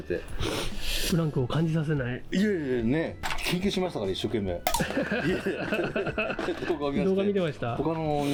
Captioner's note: laughs